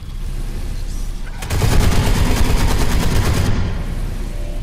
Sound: gunshots

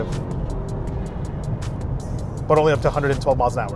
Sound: Volvo engine roaring

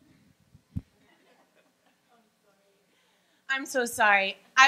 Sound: laughing

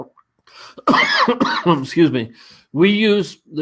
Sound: coughing

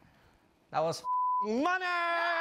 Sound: beep

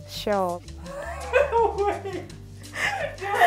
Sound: laughing

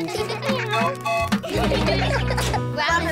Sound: tooting; all giggling

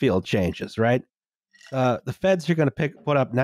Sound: ice cubes clinking in glass

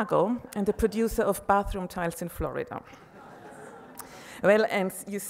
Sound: audience laughs

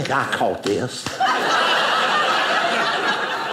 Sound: audience laughing

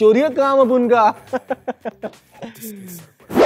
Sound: laughing

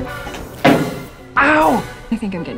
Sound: loud stomp

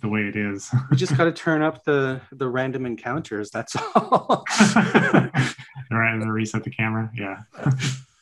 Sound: laughs

